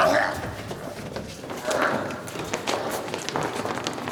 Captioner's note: coughing intensifies, then fades. Idle conversations